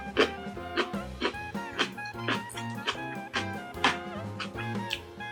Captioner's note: crunchy